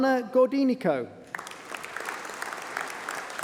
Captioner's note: applause